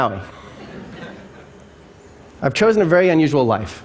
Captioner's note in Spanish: Risas